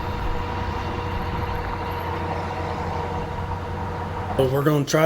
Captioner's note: machine noise